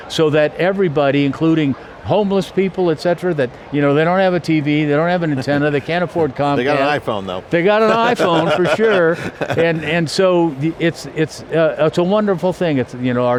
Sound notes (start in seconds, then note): 6.5 chuckles